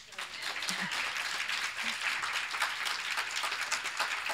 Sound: audience applauding

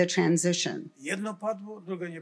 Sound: foreign language

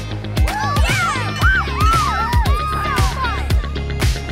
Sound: cheering

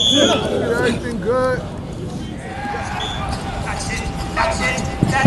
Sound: whistle blows

